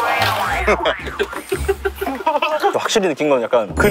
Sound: just laughing

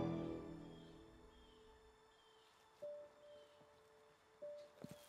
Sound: birds chirping

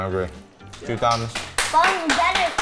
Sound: applause

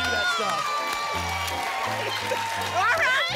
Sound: applause and cheering cont

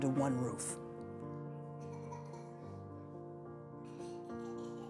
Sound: baby giggles

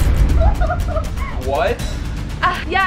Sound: laughs

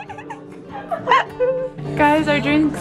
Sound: laughs

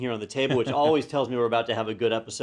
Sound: laugh

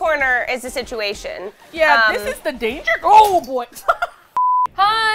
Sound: strained; laughs

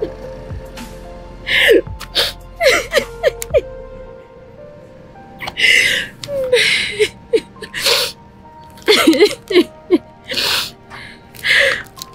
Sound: tears

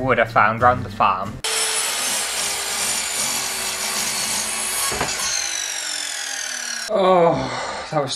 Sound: evil Saw Sounds

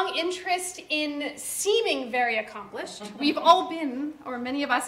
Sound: audience laughter

